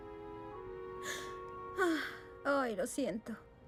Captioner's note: sigh